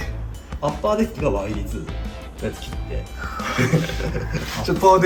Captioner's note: laughs